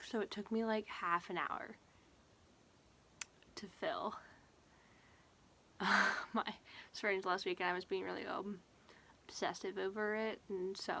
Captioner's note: laughs